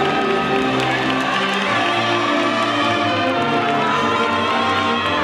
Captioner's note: audience faintly shouting